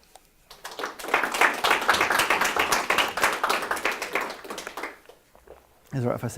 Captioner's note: applause